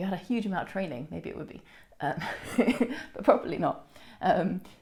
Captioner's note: chuckles